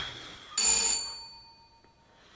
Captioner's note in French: sonnette